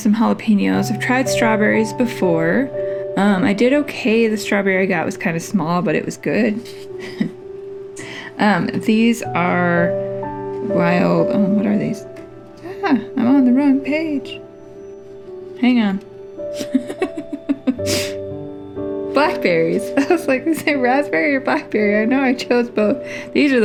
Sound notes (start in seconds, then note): 16.5 laugh